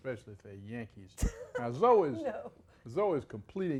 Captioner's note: chuckles